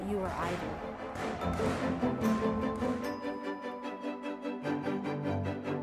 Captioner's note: crowd cheering